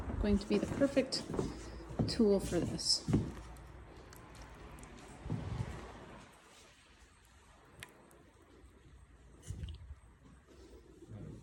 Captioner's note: sloppy splat sounds